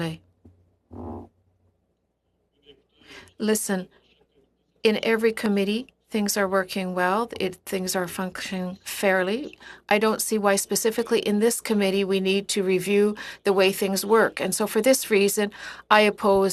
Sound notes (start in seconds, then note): 4.6 speaking French